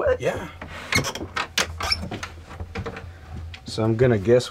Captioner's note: door creaks open